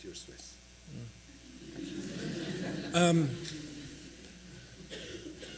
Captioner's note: laughter